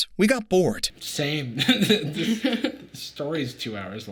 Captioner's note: chuckles